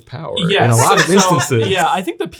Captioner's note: laughing